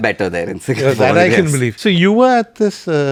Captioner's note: laughs